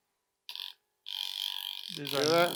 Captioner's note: massager buzzing